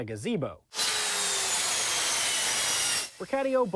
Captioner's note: saw grinds